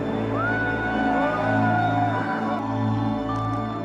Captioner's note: cheering